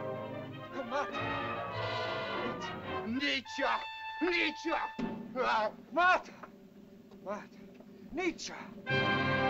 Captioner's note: speaking in caveman language; dramatic music